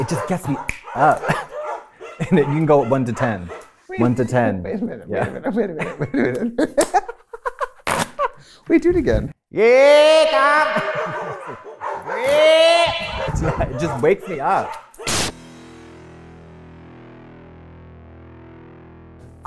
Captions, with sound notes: It just gets me up, and then you can go one to 10. One to 10. Wait a minute, wait a minute. [laughs] Wait. Do it again. -[echoing] Yeah, dog! Yep! -[dogs barking and howling] It just wakes me up.